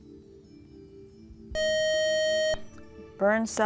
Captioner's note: buzzer